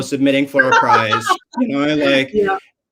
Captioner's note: laughs